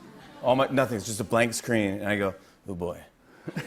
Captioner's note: laughter